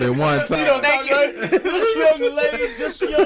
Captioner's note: laughs